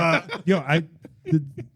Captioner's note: laughing